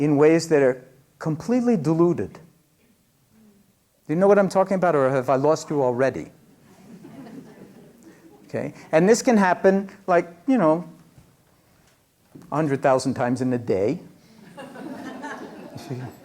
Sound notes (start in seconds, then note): 6.6 laughter